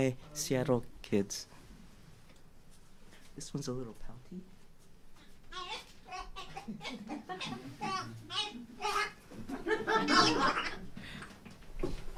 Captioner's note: sound like laughing